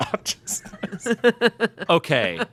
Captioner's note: chuckling